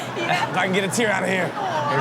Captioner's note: crowd laughs